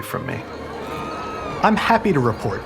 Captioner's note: citizens screaming